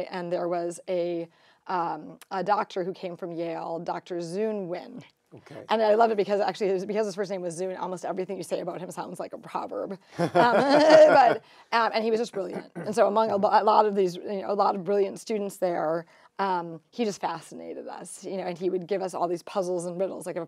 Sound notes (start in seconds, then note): 10.1 group laughing